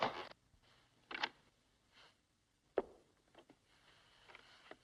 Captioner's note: door knob turning